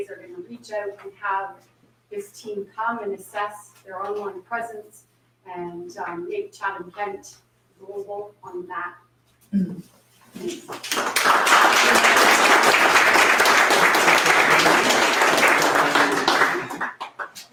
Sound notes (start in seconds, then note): 10.4 audience applauds